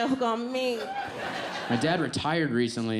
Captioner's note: audience laughs